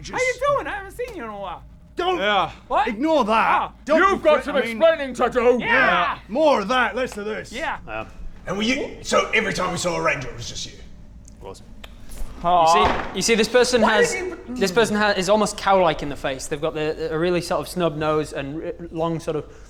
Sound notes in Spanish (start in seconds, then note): 12.7 Golpe de puño